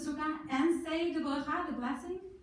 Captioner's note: in foreign language